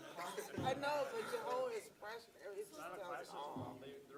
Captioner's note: laughs